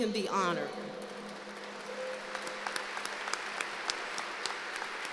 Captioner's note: applause